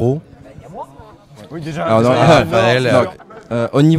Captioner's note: hubbub and brouhaha